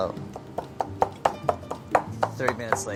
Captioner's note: pestle thudding in bowl